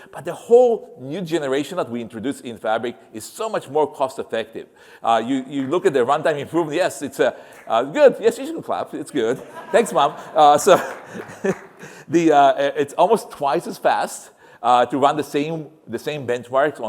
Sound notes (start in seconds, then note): 4.6 applause; 9.2 laughter; 9.3 applause